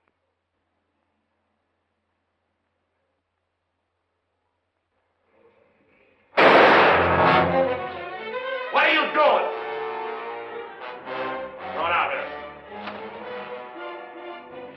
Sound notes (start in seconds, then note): 6.3 gunshot